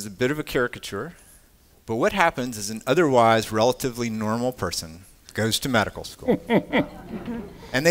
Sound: laughter

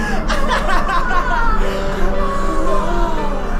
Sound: Daniel chuckling; Danielle laughing; laughing

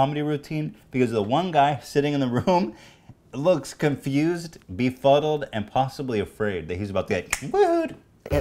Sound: snap!

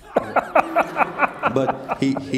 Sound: laugh

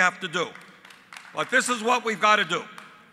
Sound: applause

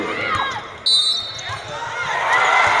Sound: cheers and Yelling; whistle

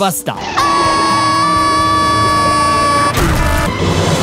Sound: screaming

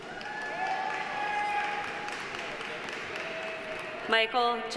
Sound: audience cheering; audience applauding

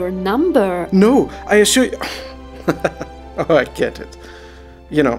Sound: chuckles

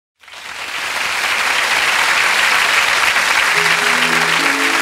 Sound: audience applauds; gentle music

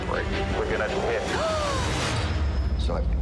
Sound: gasping

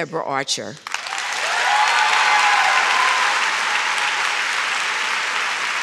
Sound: audience shouts and claps

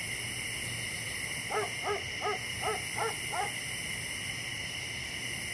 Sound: crickets; dog barks in distance

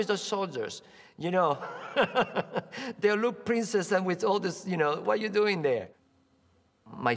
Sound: laughs

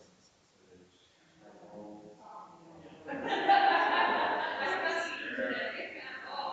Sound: people chattering distantly continues

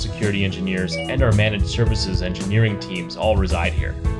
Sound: computer ding

